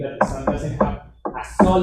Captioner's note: tapping